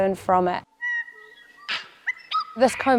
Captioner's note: bird chrips